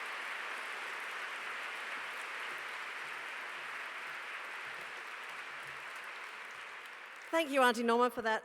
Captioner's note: applause